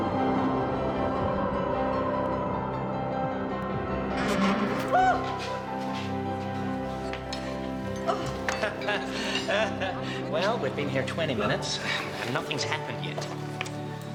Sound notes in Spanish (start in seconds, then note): 4.1 la puerta cruje; 8.1 risas